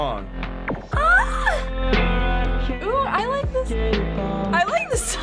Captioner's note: squealing; laughing